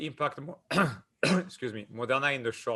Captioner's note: clears throat